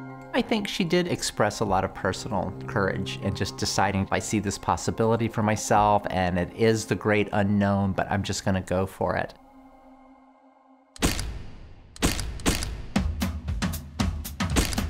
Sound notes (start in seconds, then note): 11.0 flashbulbs popping